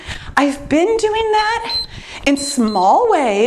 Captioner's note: timer beeps